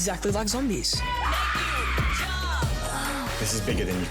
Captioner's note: screams